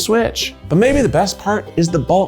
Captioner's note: graphics whooshing